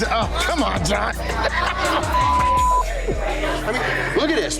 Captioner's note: laughs